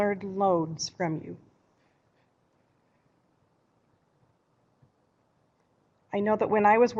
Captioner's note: no sound - waiting for questions